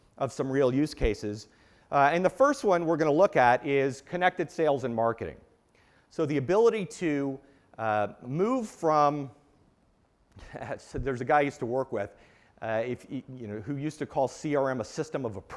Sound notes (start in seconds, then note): 8.3 laugh